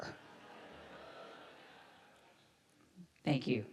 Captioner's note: audience laughs